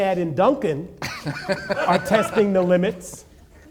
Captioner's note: laughing